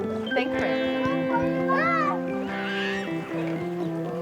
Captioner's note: boys shouting